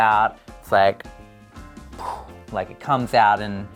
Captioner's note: makes whooshing wind noise